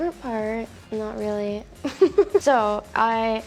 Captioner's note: laughs